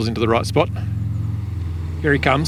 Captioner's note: car engine roaring